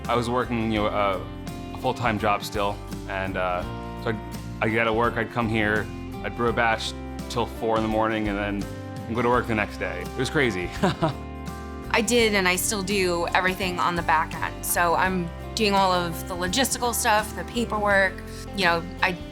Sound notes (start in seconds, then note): 10.7 chuckling